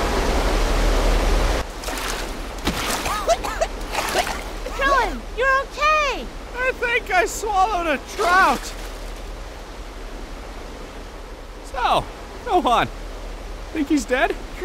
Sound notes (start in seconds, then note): 2.9 coughing